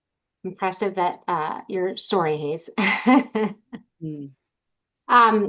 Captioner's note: laughs